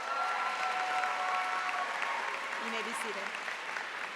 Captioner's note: cheers and applause